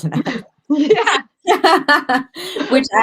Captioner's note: laughter